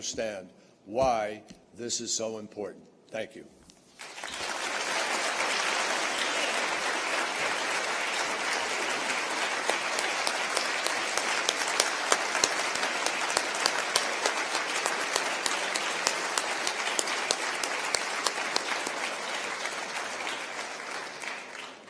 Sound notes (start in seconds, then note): 9.2 applause